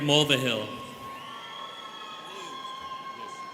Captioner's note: students cheering